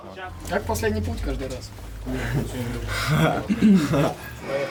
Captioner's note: laughs